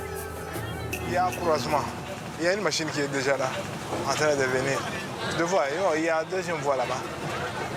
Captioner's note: foreign language